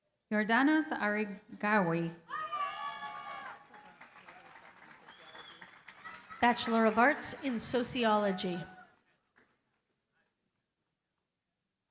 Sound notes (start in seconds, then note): 2.9 applause